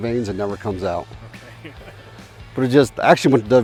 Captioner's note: laughs